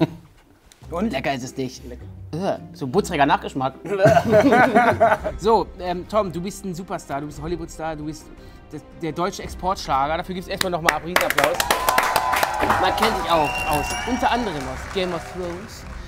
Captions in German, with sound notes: Und? - Lecker ist es nicht. So ein buttriger Nachgeschmack. (Lachen) So, Tom, du bist ein Superstar, du bist ein Hollywoodstar, du bist der deutsche Exportschlager. Dafür gibt's erst mal noch mal Riesenapplaus. Man kennt dich auch aus unter anderem aus "Game of Thrones".